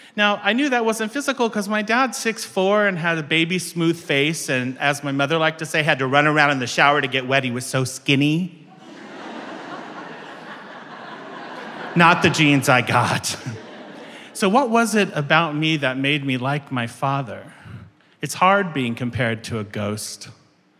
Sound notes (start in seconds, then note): 8.7 audience laughing